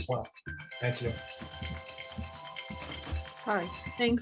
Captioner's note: phone ringing